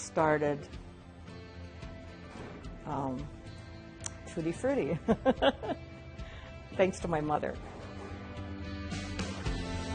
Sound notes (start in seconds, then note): 5.0 laughs